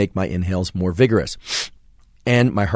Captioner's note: inhales quickly